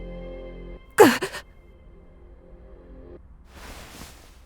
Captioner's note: gasp